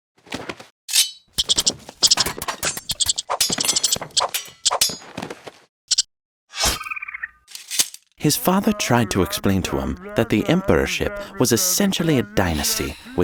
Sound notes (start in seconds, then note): 0.9 sword ringing; 1.3 squirrels thudding; 1.3 squirrels chirping; 2.1 swords clattering; 6.6 sword stabbing; 6.7 squirrel screeching